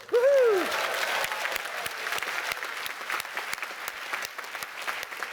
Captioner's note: applause